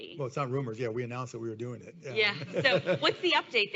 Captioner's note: laughs